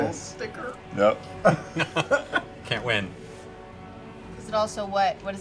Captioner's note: laughs